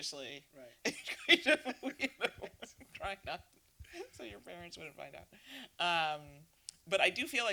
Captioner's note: laughing